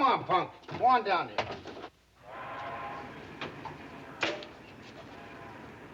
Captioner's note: distant train whistle